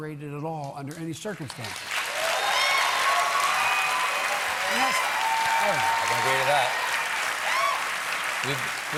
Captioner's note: cheers and applause